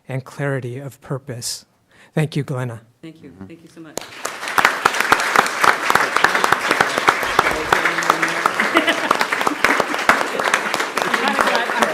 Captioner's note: clapping